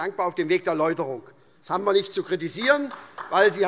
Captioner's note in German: Beifall